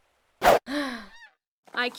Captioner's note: Katara sighs